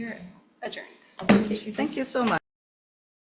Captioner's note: gavel bangs